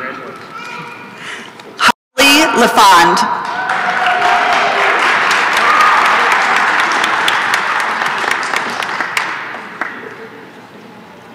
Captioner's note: applause and cheering